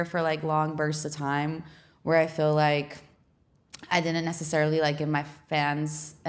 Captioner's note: none